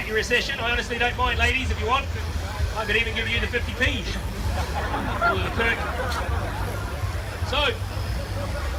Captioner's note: crowd laughs